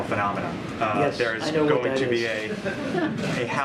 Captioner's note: laughter